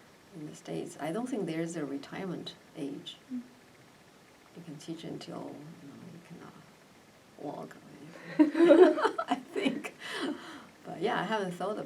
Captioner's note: all laugh